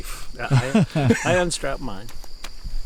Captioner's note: laughing